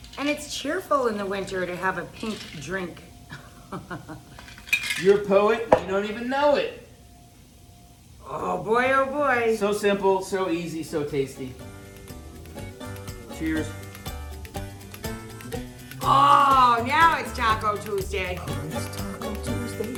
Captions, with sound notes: And it's cheerful in the winter to have a pink drink. (laughs) You're a poet, and you don't even know it. Oh boy, oh boy. So simple, so easy, so tasty. (upbeat music) Cheers. Oh, now it's taco Tuesday. Oh, it's taco Tuesday? Yes, it is.